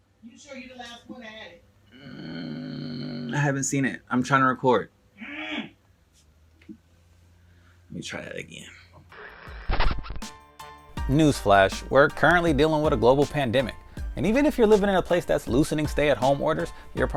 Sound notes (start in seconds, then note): 1.9 grunts; 5.2 grunts; 9.2 record scratch